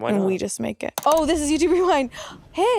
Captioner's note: mouse clicking